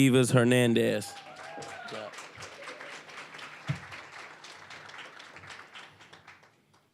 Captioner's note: applause